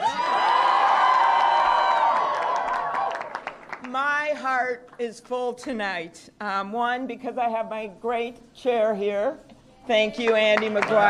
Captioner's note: applause